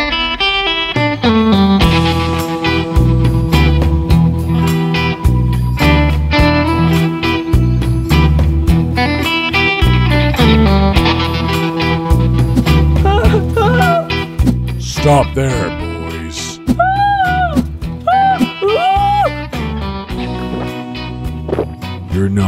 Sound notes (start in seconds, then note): 13.0 cries; 18.0 cries; 20.2 gulps